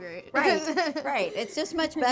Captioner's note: laughter